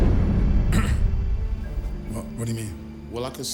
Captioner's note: fire raging; Rick clears throat